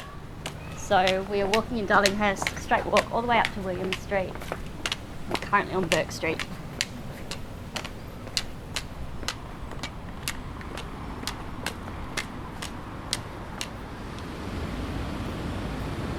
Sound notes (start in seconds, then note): 6.3 cane tapping